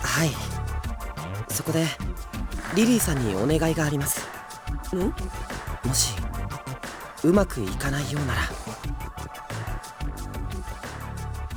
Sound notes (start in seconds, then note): none